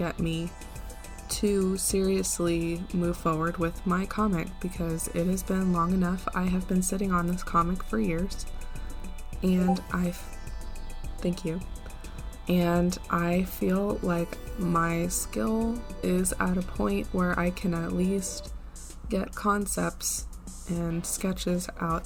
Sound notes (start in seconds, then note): 9.6 discord notif